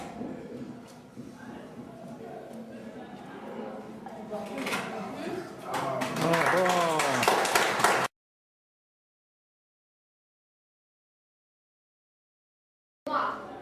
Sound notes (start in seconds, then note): 5.8 clapping